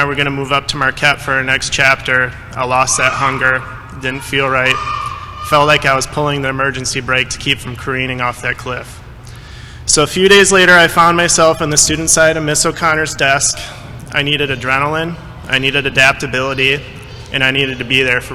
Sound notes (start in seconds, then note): none